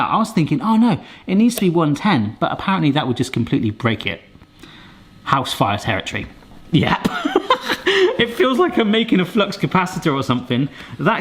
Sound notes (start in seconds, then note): 7.0 laughs